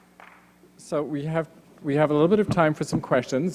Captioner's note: applause